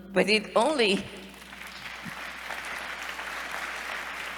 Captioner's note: applause